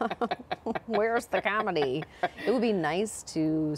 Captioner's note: laughter